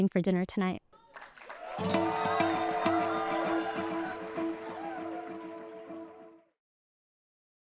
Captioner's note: applause and music playing